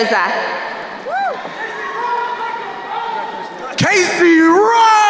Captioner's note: crowd cheering